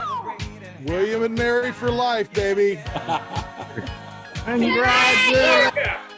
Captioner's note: laughs